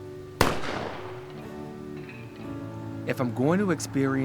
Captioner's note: rifle banging